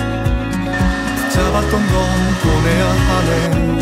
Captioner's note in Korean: 청소기 소리